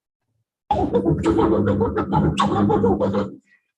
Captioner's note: monkey singing